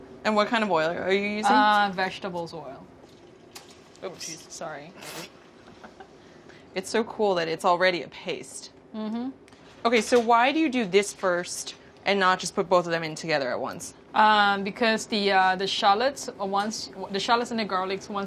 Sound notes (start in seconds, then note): 5.6 laughter